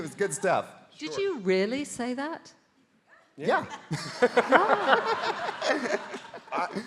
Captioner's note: laughing